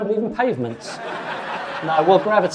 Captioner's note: audience laughing